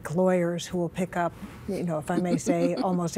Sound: chuckling

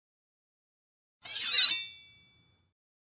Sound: sound of sword

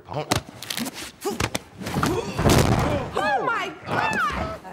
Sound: groaning

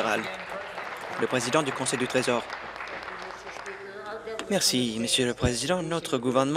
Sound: applause

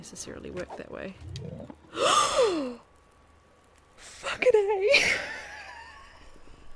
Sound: gasp

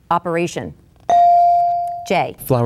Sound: bell dinging

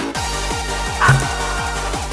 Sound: SCreams

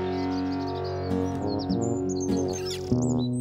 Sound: birds Chirping

